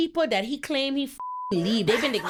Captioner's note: beep